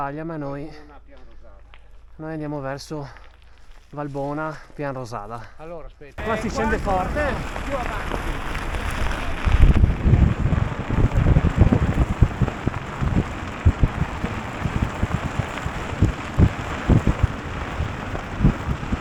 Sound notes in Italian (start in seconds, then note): 9.3 Applauso